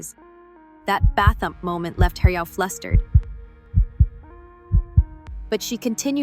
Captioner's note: bathump